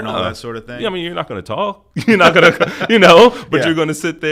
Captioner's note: chuckles